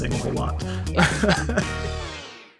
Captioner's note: laughs